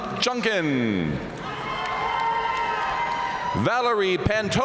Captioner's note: audience cheering and applauding